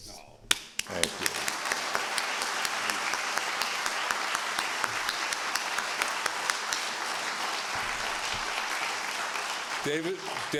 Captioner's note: applause